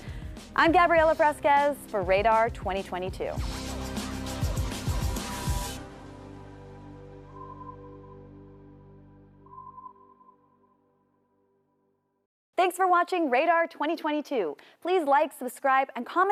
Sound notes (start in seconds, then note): 3.4 outro music playing; 7.3 radar beeping